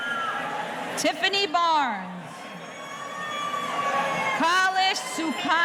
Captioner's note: audience cheering